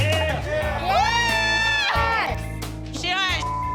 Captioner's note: crowd yells